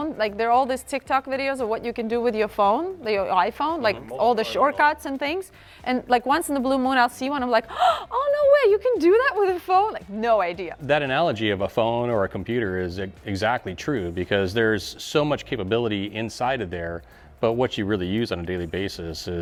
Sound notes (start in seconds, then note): 7.7 gasps